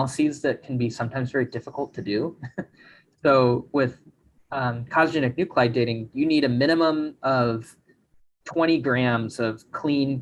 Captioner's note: chuckles